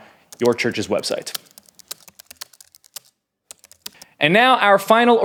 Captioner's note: typing on a keyboard